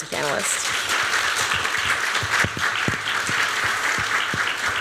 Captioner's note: applause